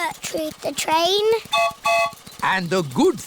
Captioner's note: train whistle blows